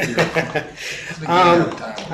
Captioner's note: laughing